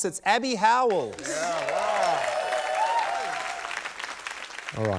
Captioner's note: cheering, applause